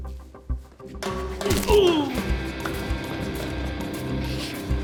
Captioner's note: Rollins groaning